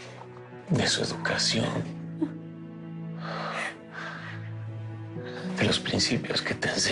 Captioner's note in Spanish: Ella solloza